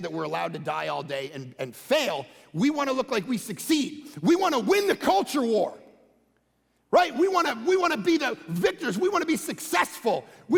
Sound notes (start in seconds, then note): none